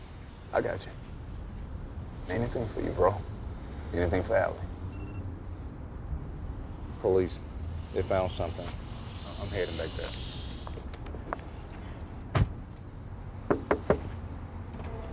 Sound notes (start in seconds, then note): 4.9 phone beeps